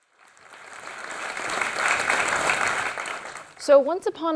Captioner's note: audience applauding